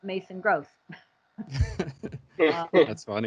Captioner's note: all chuckling